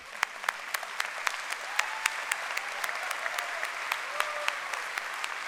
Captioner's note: applause; cheering